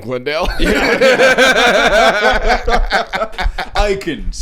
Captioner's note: laughing